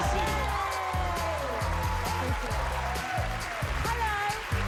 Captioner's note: cheers and applause